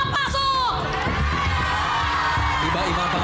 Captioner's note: overlapping screaming